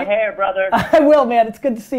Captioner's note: laughs